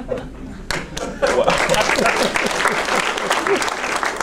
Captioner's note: audience applauds